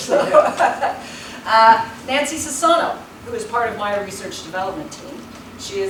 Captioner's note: laughs